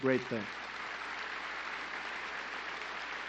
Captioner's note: applause